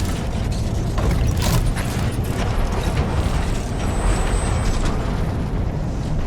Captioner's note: mechanical rumbling through portal